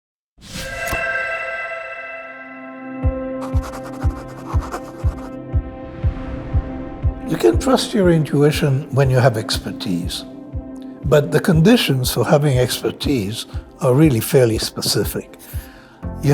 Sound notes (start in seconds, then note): 0.5 upbeat music; 3.4 pencil scratching